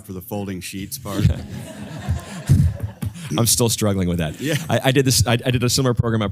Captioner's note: laugh